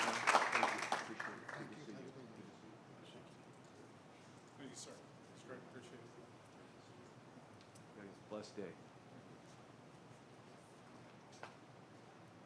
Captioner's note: applause